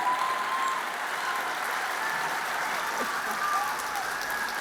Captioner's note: audience applauding